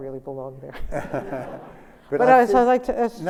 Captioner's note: laughter